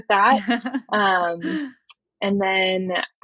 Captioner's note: <Laugh>